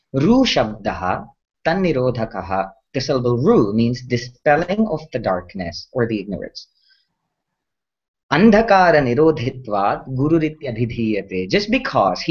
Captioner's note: sanskrit